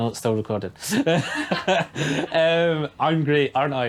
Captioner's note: laughing